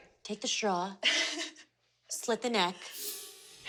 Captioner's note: laughs